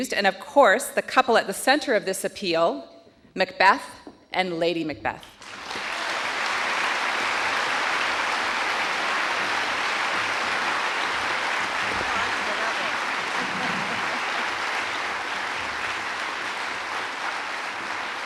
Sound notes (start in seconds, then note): 5.6 audience applauding; 16.1 laughs